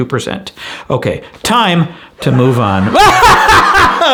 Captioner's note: laughs manically